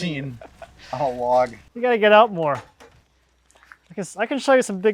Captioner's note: laughs